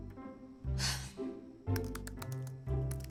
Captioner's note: sighs